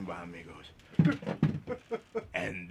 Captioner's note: risas